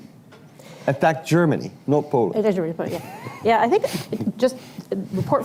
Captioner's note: laughs